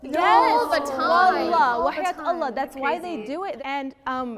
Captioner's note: speaks in foreign language